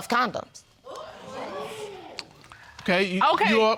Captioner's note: audience exclaiming